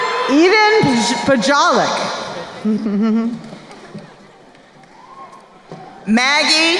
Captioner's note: chuckles